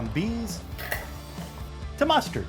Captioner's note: metal clinking